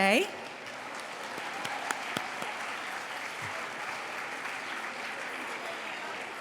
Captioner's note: applause